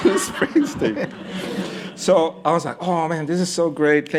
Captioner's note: laughter